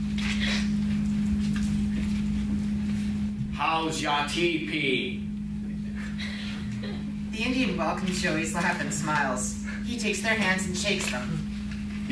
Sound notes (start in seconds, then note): 5.7 audience member laughs